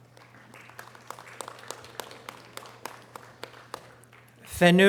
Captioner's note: audience applause